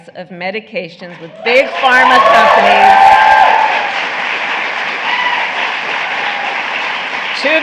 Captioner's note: applause